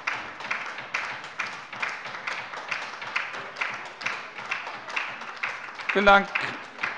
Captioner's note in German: Beifall bei der LINKEN